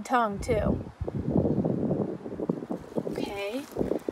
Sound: wind rustling

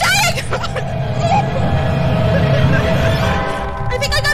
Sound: screams; whines

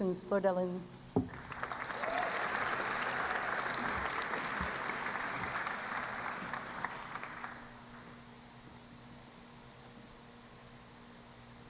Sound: applause

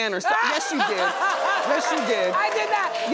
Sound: audience exclaims

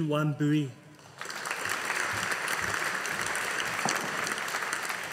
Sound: audience applauding

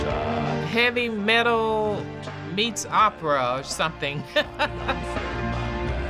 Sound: chuckles

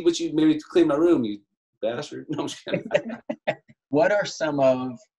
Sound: laughing

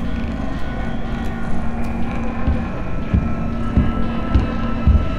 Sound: footsteps clomping

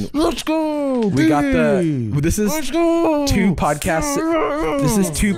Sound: cheering

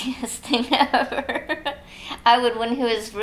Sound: laughs

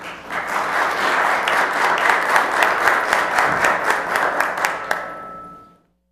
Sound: applause

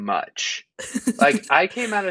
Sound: giggling

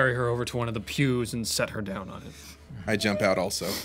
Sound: crying

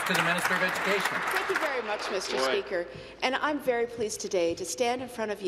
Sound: applause

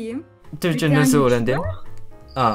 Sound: Turkish

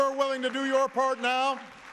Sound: applause

